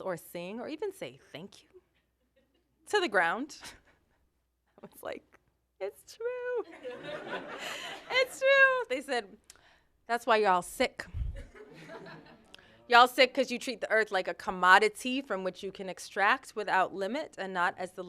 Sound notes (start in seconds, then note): 6.6 laughter